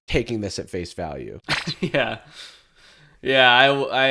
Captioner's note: chuckles